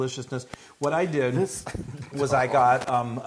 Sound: laugh

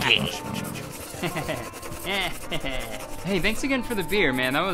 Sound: man laughing

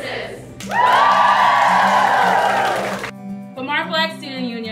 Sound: group cheering

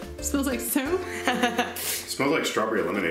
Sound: laughing

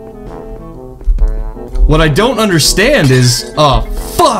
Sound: glass shatters

